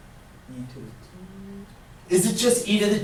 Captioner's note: voiceover